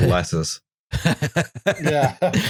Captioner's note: laughs